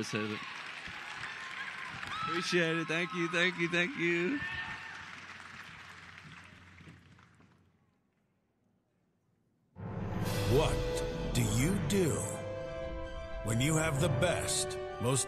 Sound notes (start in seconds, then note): 6.2 applause